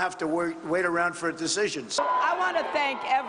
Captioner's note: cheers and applause